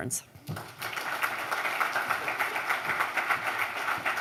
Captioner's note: applause